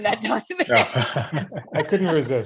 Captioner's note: laughter